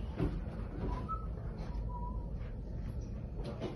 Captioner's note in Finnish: viheltelyä